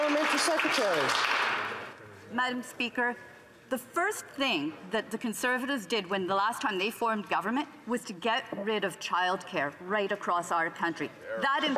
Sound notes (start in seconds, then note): 0.0 some Applause